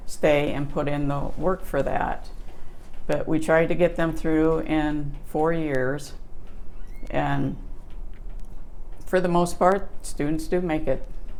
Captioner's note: can hear a door screech